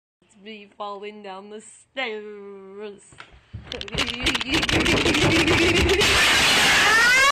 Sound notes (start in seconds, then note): 3.2 thuds; 5.9 glass breaks; 6.1 scream